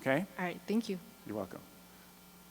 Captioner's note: voiceover